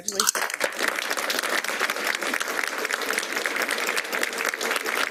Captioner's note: applause